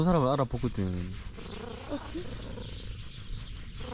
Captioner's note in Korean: 가르릉